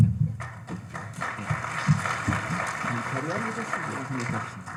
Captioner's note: audience applauding